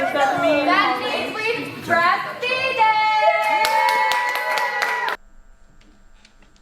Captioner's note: applause